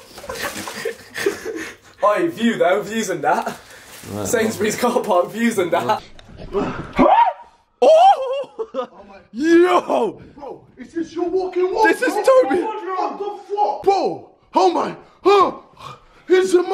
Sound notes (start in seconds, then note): 6.6 screaming; 15.7 gasping; 16.5 foreign language